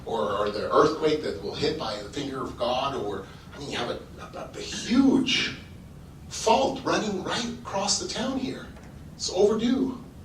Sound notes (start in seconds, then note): none